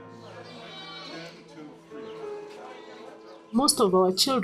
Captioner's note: baby crying